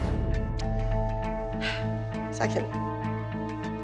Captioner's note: dramatic music; sighs